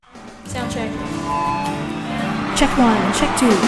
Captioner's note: microphone feedback